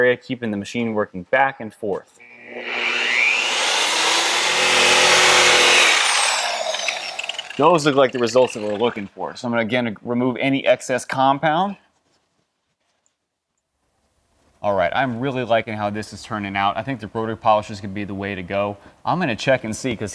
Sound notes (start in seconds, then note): 2.2 machine whirring